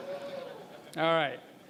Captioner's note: cheering